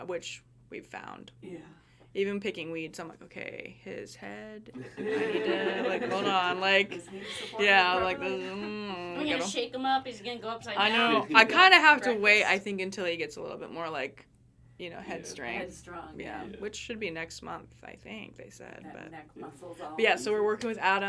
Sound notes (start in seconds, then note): 4.8 everyone laughing